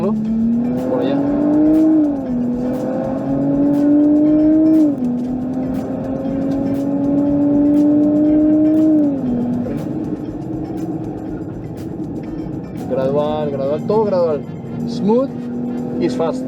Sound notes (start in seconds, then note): 1.2 engine roaring